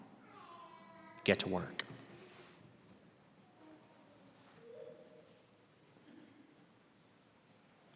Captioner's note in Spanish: Silencio